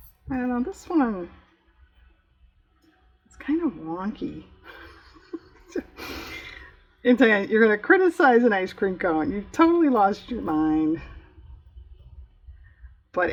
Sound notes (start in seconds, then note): 4.7 laughs